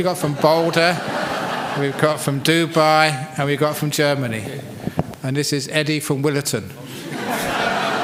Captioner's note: laughter; laughter